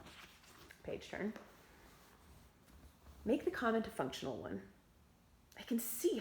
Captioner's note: page turn